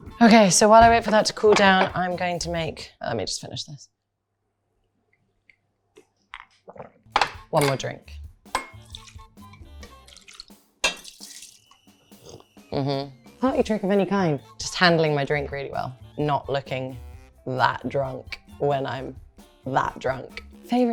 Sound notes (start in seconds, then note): 8.9 liquid splashing; 11.8 whistle blaring